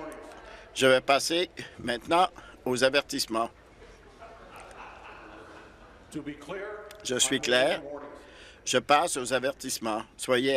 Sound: continued interjections

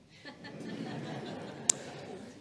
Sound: laughter

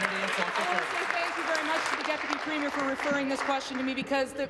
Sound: applause

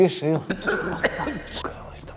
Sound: cough

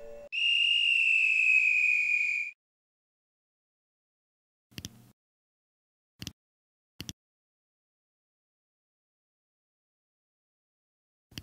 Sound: beeping; whistling

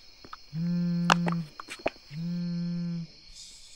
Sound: phone vibrates

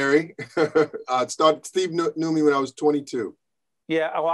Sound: laughing

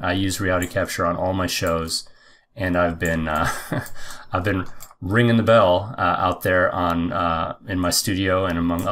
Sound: laughing

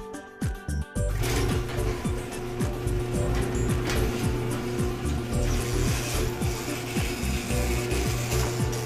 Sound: sound of a garage door opening; sound of the broken garage door opening

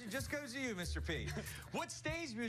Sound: laughter

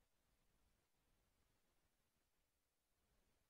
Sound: none

